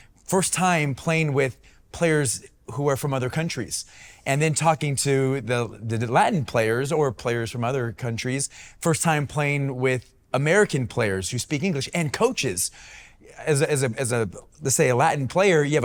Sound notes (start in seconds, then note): none